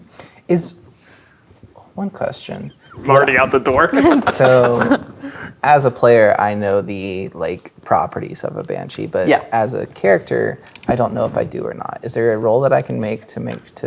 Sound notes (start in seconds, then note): 2.7 laughing